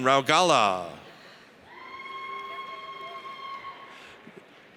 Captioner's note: audience cheers